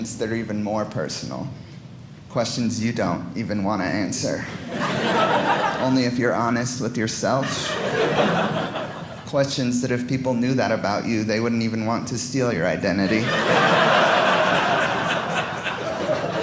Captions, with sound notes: are even more personal. Questions you don't even want to answer. Only if you're honest with yourselves. Questions that if people knew that about you, they wouldn't even want to steal your identity. (audience laughing)